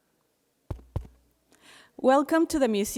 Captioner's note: taps mic